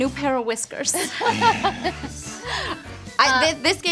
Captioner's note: laughter